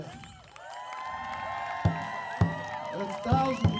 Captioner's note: audience cheering and applauding